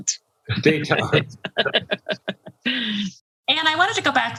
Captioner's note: laughing